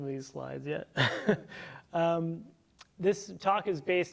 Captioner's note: chuckles